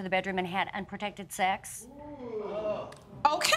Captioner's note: audience groans